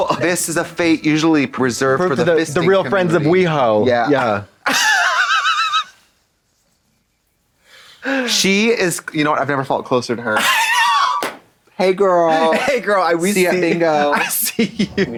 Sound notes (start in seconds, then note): 4.6 blonde Women hee-haw; 11.2 rasps and slaps